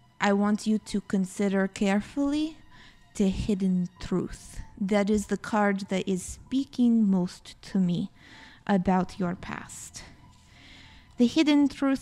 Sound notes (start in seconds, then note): none